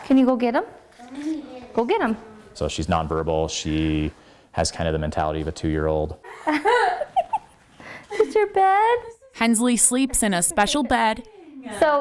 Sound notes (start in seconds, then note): 6.4 laughing